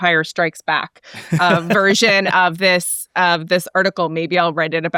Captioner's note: laughs